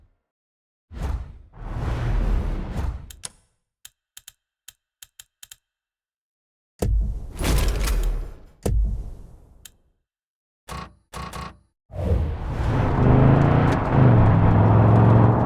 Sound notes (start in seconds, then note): 0.2 whooshing; 2.9 clicking; 6.2 gun firing